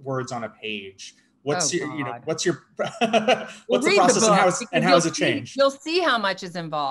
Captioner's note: laughs